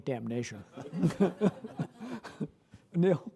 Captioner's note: laughter